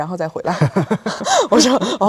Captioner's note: chuckles